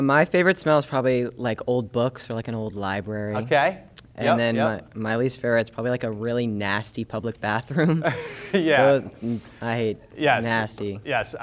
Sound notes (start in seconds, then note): 7.8 laughing